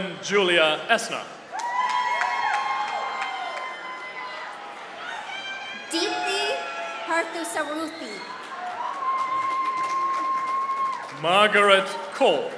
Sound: applause

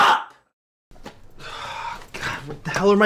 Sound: sigh

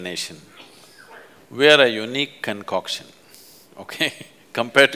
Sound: laughs; laughs

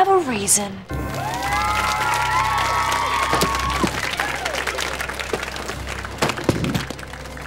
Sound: cheering, applauding

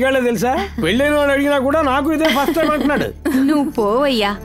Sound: laughs

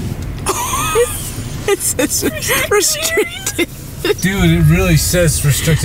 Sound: laughs

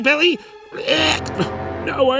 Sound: retches

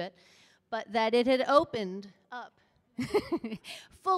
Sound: laughs

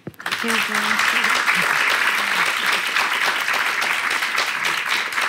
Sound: applause

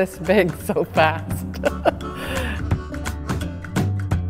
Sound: laughter

